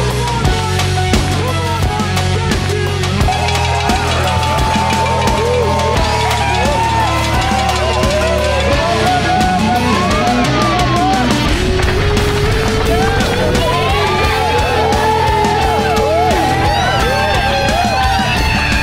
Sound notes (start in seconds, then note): 0.1 crowd; 0.1 uplifting music; 0.9 crowd; 0.9 uplifting music; 2.8 crowd; 2.8 uplifting music; 5.7 crowd; 5.7 uplifting music; 8.5 crowd; 8.5 uplifting music; 11.3 crowd; 11.3 uplifting music